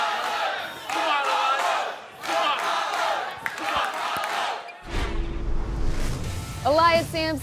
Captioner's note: fans chanting